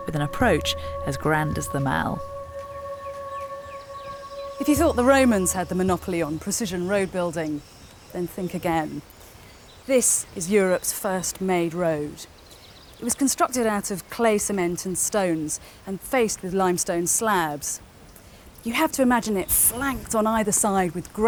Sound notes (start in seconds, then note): 3.1 birds chirping; 3.1 gentle music